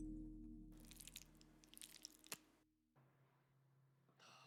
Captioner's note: beans slopping